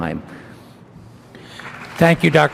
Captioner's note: audience applauds